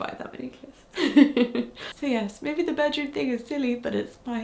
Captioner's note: chuckles